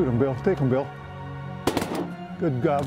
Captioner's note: gun shots